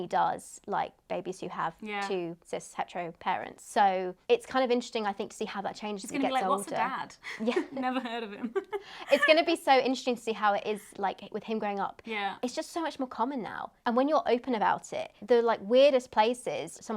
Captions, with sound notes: he does like babies who have yeah two cis hetero parents. So it's kind of interesting I think to see how that changes as he gets older. - He's be like, what's a dad? - Yeah. - Never heard of him. (laughs) - It's gonna be so interesting to see how it is like with him growing up. It's just so much more common now and when you are open about it, the like weirdest places,